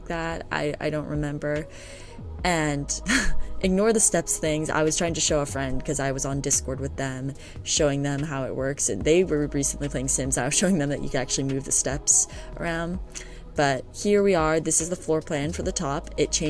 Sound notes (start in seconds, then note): 3.0 laughs